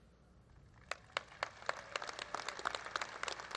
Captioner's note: applause